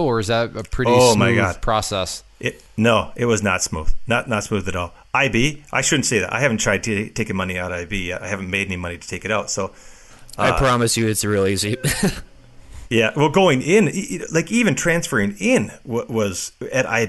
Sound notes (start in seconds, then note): 11.7 laughs